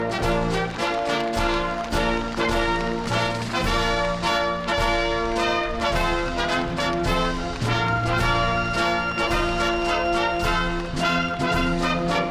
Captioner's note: applause